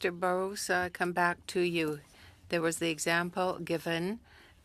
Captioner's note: speaking french